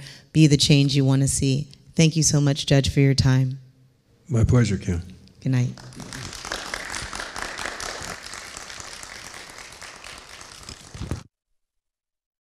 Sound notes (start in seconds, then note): 5.7 audience clapping